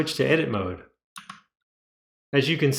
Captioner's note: The sweet sound of MX Cherry Blues being pressed